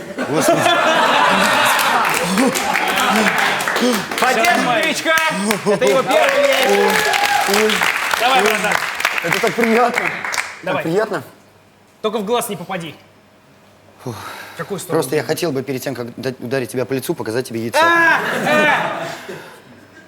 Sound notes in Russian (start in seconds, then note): 1.4 смех, аплодисменты; 8.3 Аплодисменты; 18.1 Смех